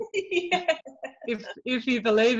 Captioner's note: laughs